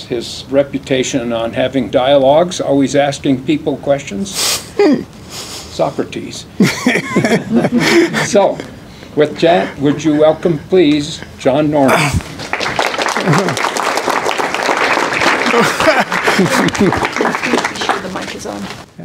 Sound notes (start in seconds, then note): 6.6 laughter; 12.3 applause